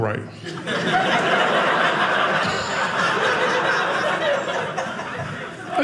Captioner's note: audience laughing